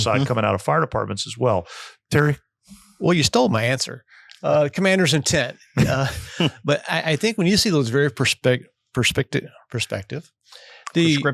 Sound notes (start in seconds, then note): 5.7 laughing